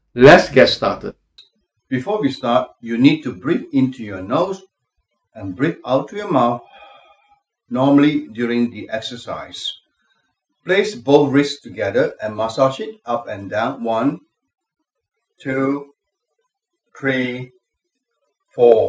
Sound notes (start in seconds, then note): 6.6 exhaling